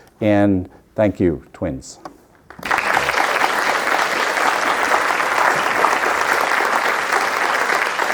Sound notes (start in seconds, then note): 2.4 audience applauding